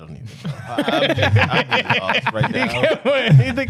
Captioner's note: laughing